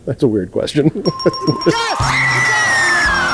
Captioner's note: bells dinging; screaming